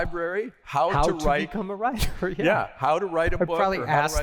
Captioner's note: laughter